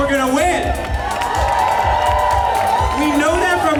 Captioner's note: cheers